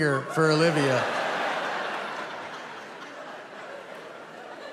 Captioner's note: audience laughing